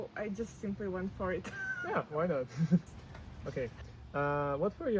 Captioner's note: laughs